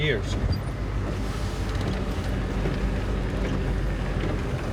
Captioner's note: engine running